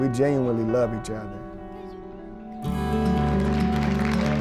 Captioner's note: applause